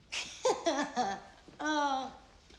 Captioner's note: laughs